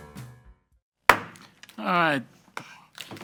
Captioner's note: gavel banging